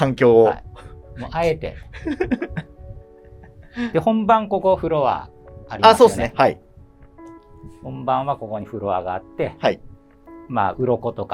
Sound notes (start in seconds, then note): 1.9 laughing